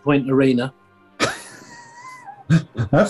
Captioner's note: sniggering